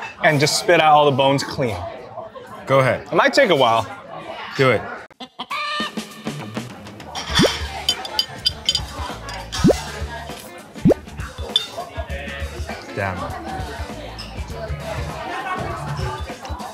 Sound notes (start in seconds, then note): 5.2 chicken squawks; 8.5 mellow music